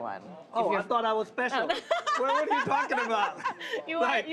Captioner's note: laughs